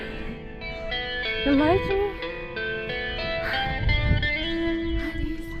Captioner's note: breathes heavily